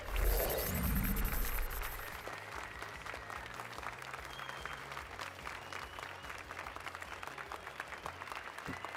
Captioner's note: applause and cheers